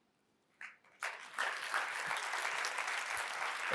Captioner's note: audience applauds